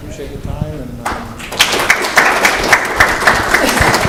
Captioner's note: applause